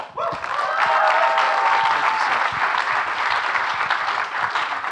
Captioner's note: audience clapping and cheering